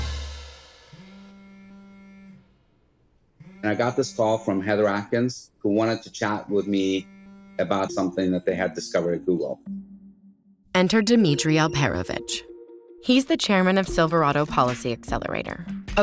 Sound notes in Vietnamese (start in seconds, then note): 1.0 điện thoại rung